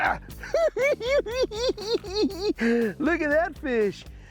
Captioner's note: hoo hoo hee hee